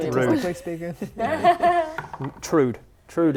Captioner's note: laughs